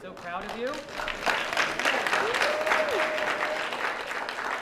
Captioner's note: applause